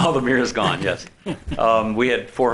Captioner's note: laughs